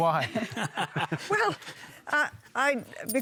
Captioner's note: laughter; laughs